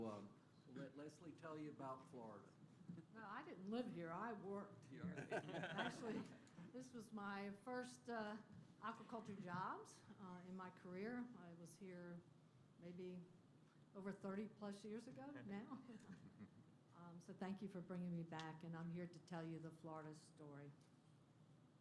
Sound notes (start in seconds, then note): 5.0 laughter